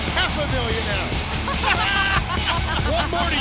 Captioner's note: both laughing